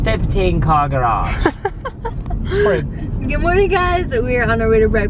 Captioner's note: giggling